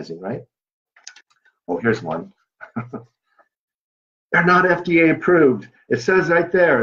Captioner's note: chukcle